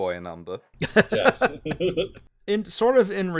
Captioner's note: laughter